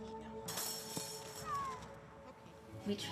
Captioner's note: cat meows